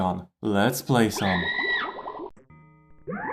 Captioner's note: BALL SCREAMS as it DISSOLVES